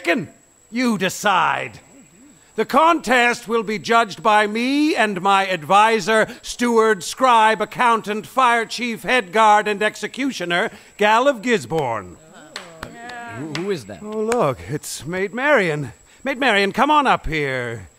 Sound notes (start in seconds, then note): 12.5 mildly enthusiastic clapping, murmuring